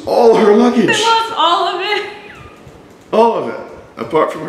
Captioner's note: laughing